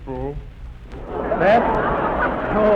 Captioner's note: audience laughing